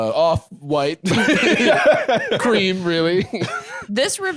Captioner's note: laughs